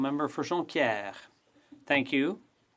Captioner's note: speaking French